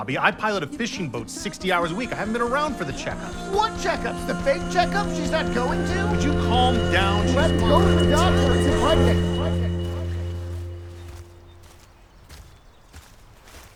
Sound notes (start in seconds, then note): 9.5 footsteps approaching